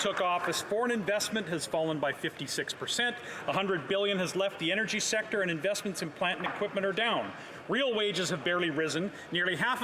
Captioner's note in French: voix de l'interprète